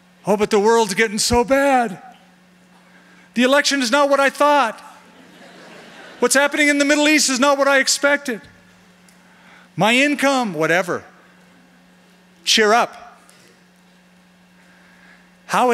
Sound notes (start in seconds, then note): 5.0 laughter